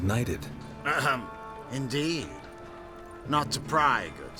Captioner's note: surprised